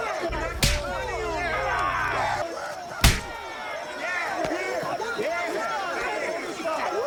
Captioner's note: group clamoring; group continues clamoring; fist pounds